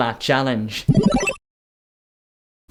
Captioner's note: digital bubble tone